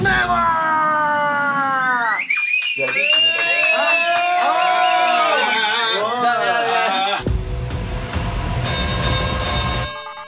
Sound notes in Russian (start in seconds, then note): 2.1 свист